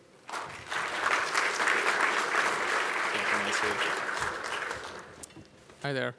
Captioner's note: applause